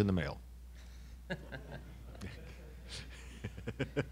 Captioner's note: laughing